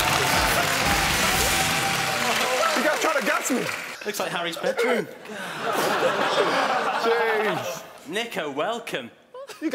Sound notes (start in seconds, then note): 5.3 laughing